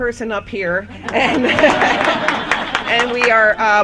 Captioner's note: laughter